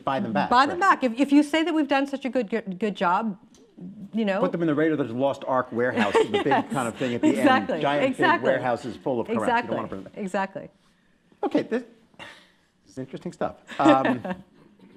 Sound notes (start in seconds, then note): 6.0 laughing; 13.7 laughs